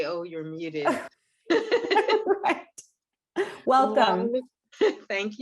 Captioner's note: laughs